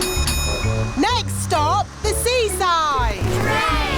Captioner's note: bell dings